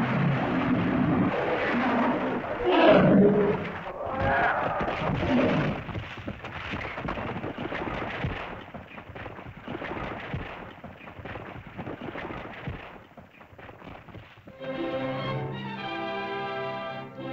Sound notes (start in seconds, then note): 0.0 lizard moans; 0.0 rocks rumbling; 0.0 tense music; 2.6 rocks rumbling; 2.6 tense music; 3.9 lizard cries out; 6.5 rocks rumbling; 14.5 triumphant music